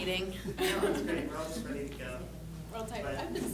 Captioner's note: laughing